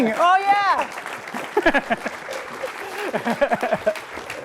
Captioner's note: applause